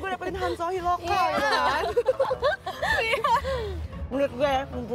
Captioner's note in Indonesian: Ketawa